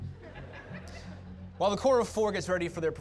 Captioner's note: audience laughter